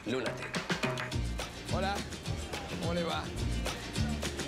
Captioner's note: in Spanish